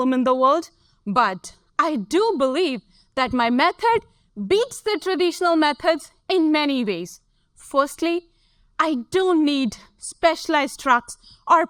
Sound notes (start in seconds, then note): none